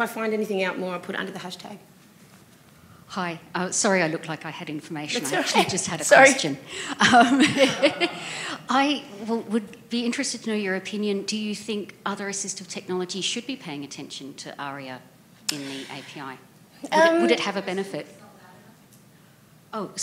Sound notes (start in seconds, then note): 7.0 laughter